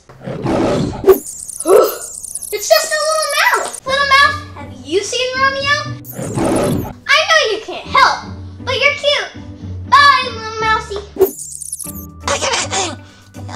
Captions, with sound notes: (lion roars) (mouse squeaks) Whew. It's just a little mouse. Little mouse, have you seen Romeo? (mouse squeaks, lion roars) I know you can't help, but you're cute. Bye little mousey! (Squeaks) - I- I was going to tell her he's right here in this cave.